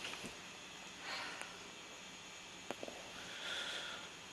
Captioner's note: Izzy sighs